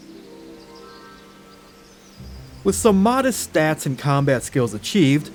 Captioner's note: none